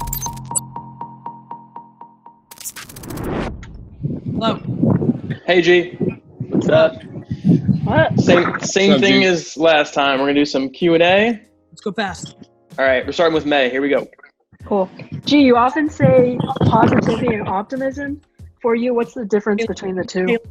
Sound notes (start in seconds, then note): 0.0 beeping; 2.8 air whooshing; 3.0 wind blowing